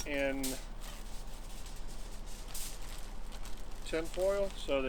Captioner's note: tinfoil crinkles